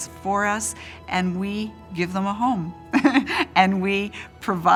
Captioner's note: laughs